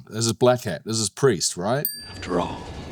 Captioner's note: tone dings